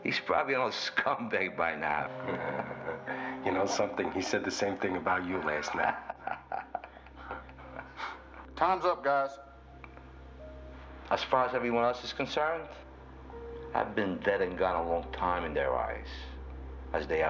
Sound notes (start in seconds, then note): 2.0 chuckling; 6.2 laughing